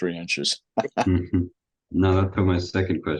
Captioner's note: laughs